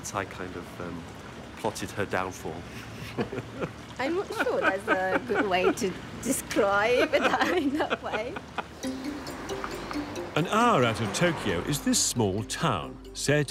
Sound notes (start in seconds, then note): 2.7 chuckling; 6.9 laughing